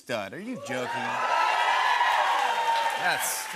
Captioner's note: cheers and applause